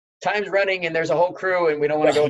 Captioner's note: laughing